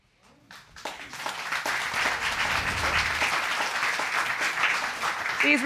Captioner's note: applause